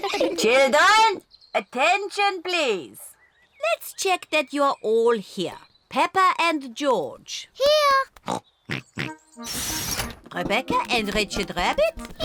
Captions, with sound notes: Children! Attention, please! Let's check that you're all here. Peppa and George. -Here! -(BOTH SNORT) Rebecca and Richard Rabbit.